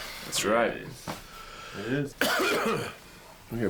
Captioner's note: coughs